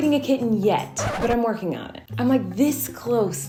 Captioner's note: record scratching